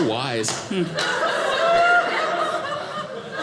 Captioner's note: audience laughing